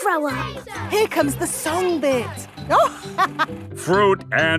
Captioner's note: chuckling